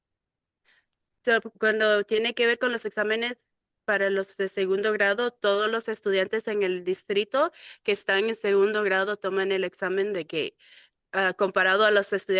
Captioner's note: speaking in Spanish